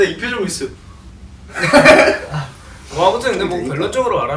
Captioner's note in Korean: 웃음